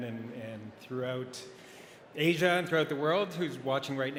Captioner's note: none